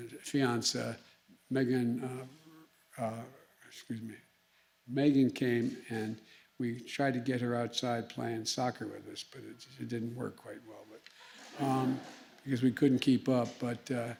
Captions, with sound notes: fiancée, Megan -- excuse me, Megan came and we tried to get her outside playing soccer with us, but it didn't work quite well, but -- (laughter) -- because we couldn't keep up.